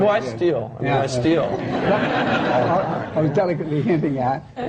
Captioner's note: laughter